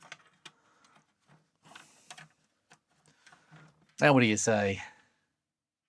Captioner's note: typing